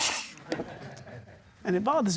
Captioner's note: scoffs